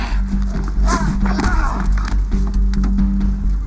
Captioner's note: groans